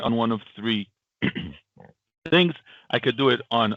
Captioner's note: clears throat